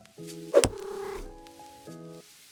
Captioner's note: cat purrs